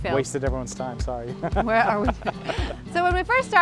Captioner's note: laughs